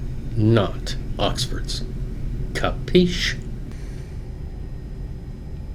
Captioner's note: speaks foreign language